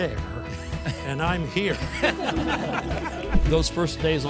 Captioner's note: audience laughter